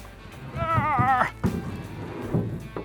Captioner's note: groaning